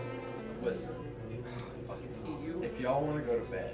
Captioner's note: exhale